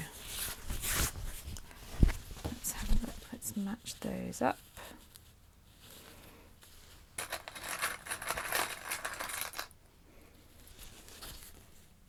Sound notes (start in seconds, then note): none